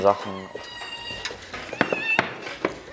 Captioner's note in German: Aufgeregtes Miauen